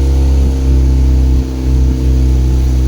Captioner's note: noise of engine running and splashing of waves